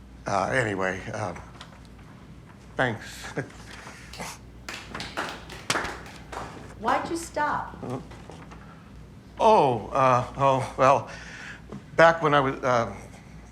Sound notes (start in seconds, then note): 4.1 scattered clapping